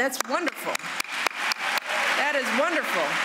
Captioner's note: applause